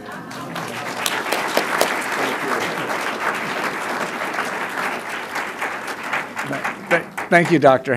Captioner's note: applause